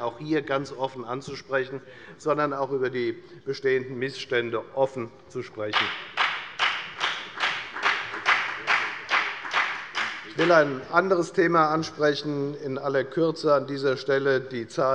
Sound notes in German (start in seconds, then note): 5.7 Beifall bei der FDP